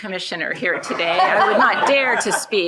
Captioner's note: shared laughing